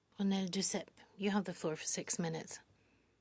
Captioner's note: speaking French